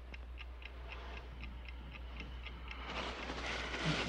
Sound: clock ticking

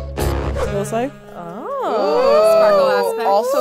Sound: aahs

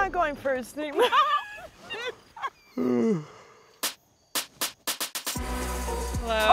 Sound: laugh

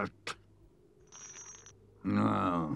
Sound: trap clangs

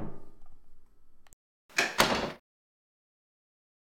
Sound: door slams shut

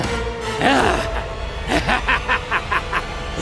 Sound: evil laughter

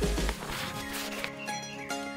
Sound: page turning; birds chirping

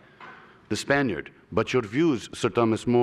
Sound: spanish accent

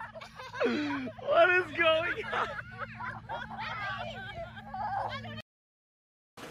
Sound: distant laughter

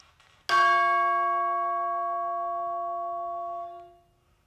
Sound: chimes ringing

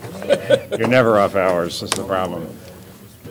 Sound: laughter

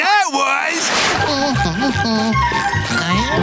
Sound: humming

